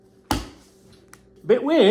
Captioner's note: hand thudding